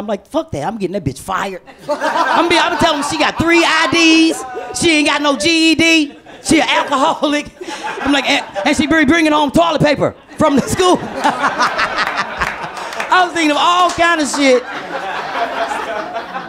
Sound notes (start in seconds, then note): 10.2 laughs